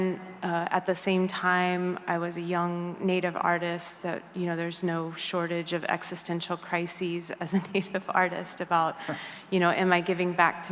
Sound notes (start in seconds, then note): none